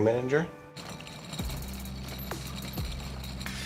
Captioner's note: wheels rolling